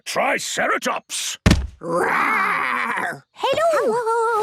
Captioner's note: thudding